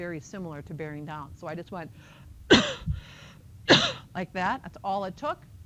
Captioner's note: coughing